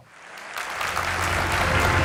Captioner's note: applause